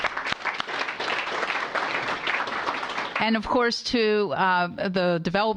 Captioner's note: applause